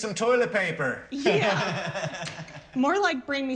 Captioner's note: laughs